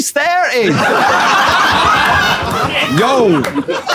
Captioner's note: people in room laughing